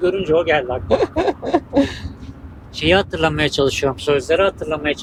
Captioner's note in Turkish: kahkaha